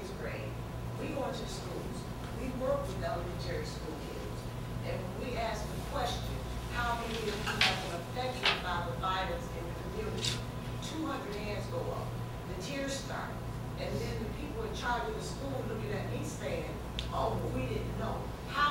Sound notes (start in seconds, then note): none